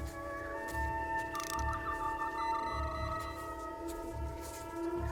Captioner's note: Tri-corder scanning sound